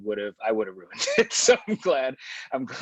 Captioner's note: laughs